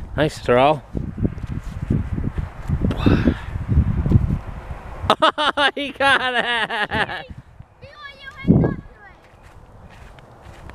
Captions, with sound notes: Nice throw. (laughing) He caught it.